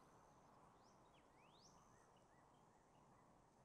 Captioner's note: birds singing